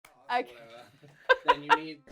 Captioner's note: laughing